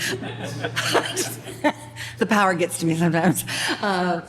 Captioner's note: laughter